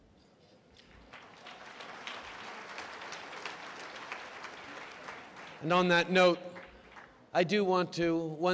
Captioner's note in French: Applaudissements